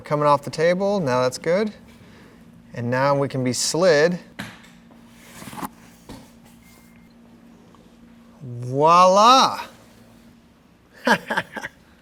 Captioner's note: laughs